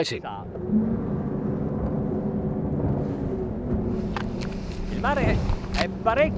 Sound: engines roaring and humming; speaking in Italian

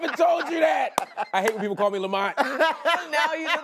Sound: laughs

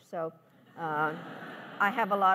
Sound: laughs

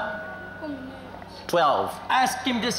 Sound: speaking in local language

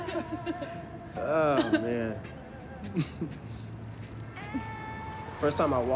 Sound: laughing; laughs

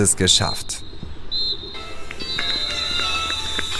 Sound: two whistles

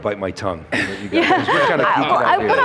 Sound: panel laughs

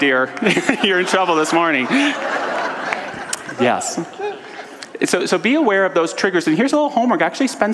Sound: audience laughter

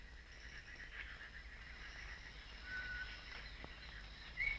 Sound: ambient nature noises

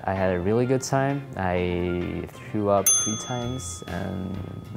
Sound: ding

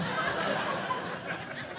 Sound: audience laughing

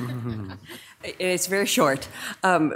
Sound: members softly chuckling

